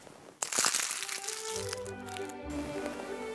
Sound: crinkles; violin music

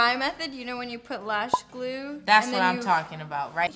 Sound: blows

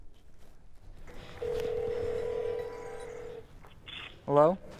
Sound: phone ringing

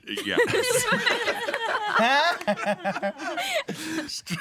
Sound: everyone laughing

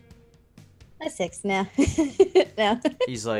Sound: laughs

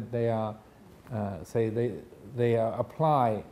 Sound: none

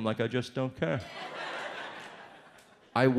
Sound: audience laughs

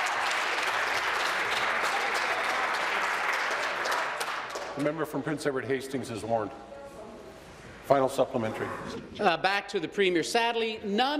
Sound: applause

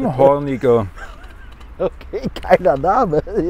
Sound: laughter

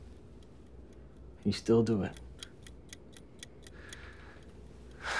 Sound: timer ticking; sighs

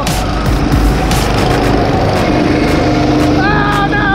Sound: motors roaring

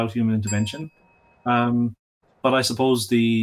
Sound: bell dings

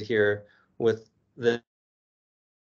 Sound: audio drops

